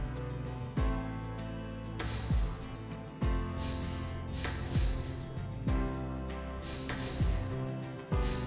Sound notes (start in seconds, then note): 0.9 fence rattling